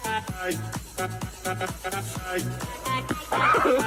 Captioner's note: laughs